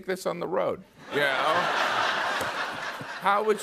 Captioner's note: laughter